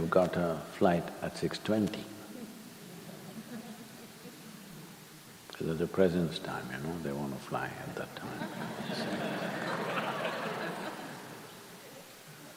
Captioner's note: laughter